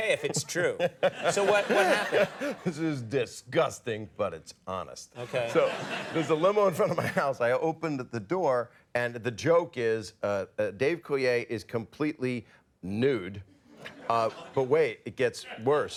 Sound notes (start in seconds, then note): 0.0 Bob and audience laugh; 5.2 audience laughs